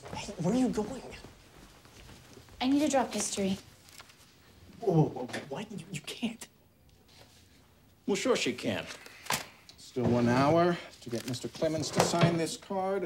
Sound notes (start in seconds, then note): none